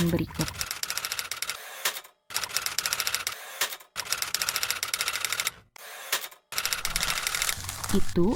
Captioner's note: typewriter sound